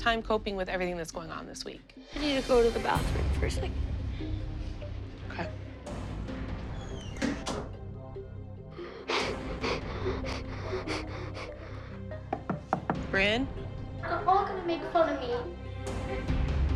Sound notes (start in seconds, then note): 8.8 soft sobbing; 12.3 knocking